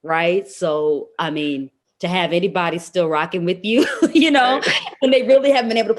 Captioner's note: laughs